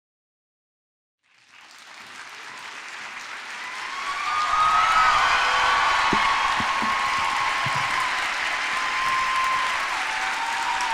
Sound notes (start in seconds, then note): 2.0 applause